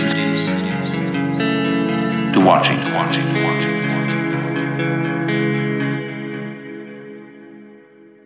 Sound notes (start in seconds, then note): 3.4 voice echoing